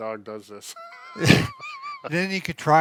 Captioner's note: laughs